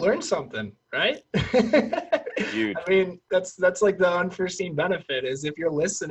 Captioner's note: laughs